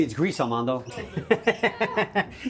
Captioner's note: laughing